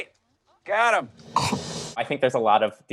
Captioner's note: snorts